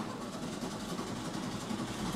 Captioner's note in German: Motor startet